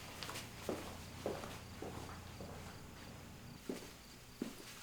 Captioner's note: footsteps thumping